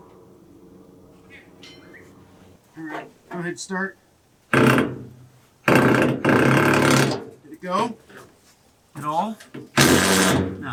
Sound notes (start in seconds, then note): 5.6 drilling